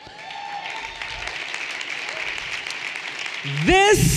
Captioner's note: everyone cheering and applauding